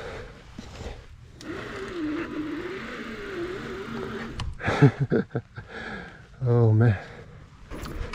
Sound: laughs

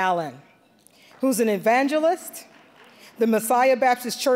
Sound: scattered applause

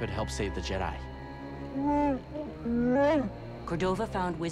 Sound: growl, roar

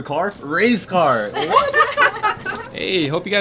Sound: laughter

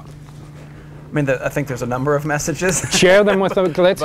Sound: laughs

